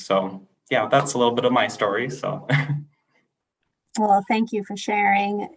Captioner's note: laughter